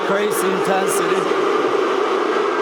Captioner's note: crowd chanting henrik